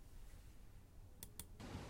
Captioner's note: mouse click